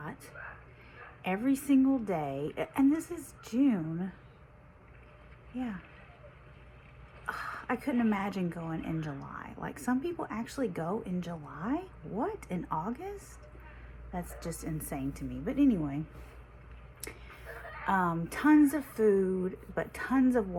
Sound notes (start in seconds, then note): 7.3 sighs